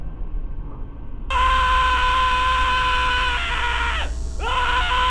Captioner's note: upbeat tensed beat; man screaming